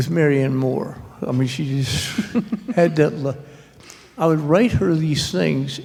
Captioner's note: laughter